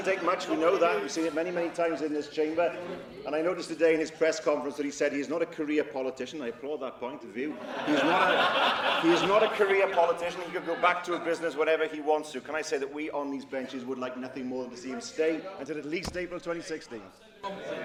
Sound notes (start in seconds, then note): 7.5 laughter